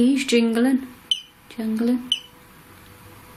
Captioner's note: beep